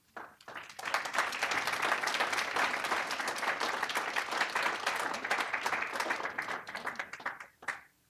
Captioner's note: applause